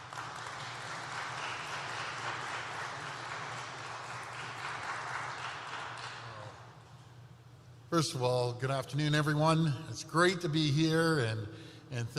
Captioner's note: applause